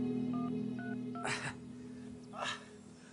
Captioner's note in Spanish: Sonido al marcar